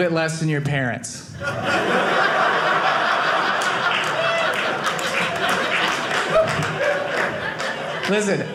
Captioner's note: audience laughing